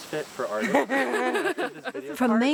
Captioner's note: laughing